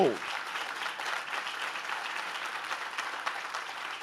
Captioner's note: audience claps